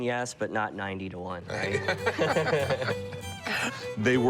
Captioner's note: laughter